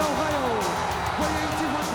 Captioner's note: crowd cheering